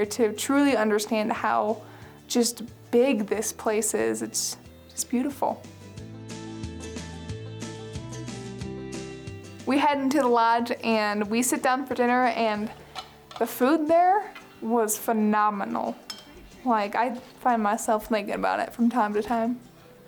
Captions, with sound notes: to truly understand how just big this place is. It's beautiful. (country music) We head into the lodge and we sit down for dinner and the food there was phenomenal. (cutlery clinking) Like, I find myself thinking about it from time to time.